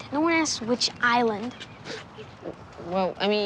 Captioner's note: scoffing